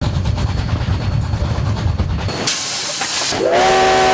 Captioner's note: train rumbling; train whistle